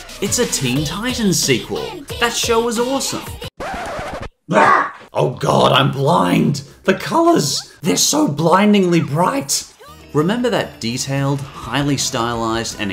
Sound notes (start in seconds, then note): 3.5 record scratch; 4.5 Strider shouts